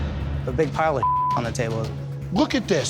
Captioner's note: beep